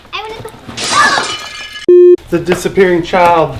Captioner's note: crashes; beep